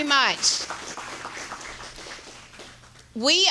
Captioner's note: audience applauding